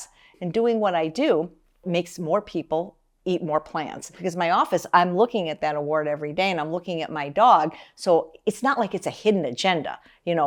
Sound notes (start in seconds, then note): none